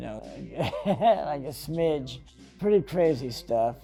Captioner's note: laughs